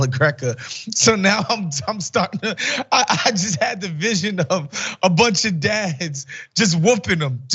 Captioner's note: laugh